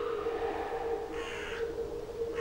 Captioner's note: bird cawing